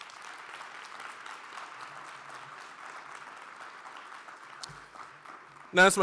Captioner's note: applause